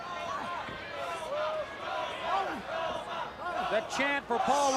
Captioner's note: crowd cheering